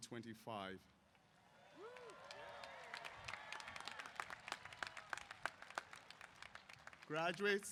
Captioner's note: applause & Cheers